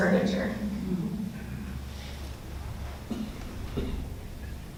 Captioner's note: audience laughs